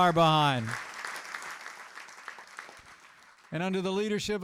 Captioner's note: applause